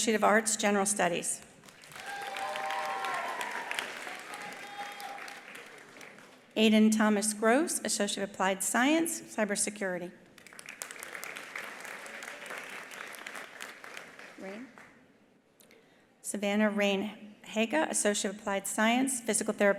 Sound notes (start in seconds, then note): 1.6 attendees applauding; 1.9 attendees cheering; 10.4 attendees applauding